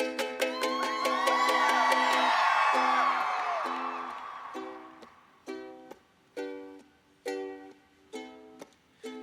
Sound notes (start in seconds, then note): 0.4 cheers